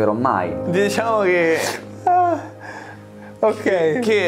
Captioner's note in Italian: sospira